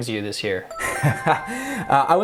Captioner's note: bell chimes; dramatic laughs